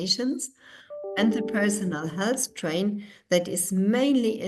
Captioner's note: chime rings